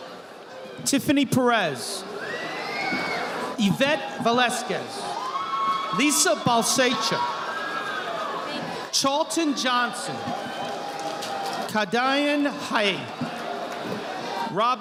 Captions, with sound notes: Tiffany Perez. (audience applauding) Yvette Velasquez. Lisa Valsecha. Charlton Johnston. Hadean Hai.